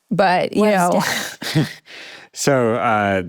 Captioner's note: all laughing